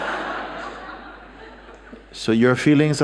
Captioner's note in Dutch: gelach